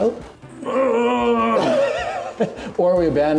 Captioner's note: groaning; laughing